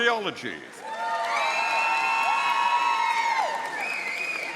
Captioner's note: audience cheering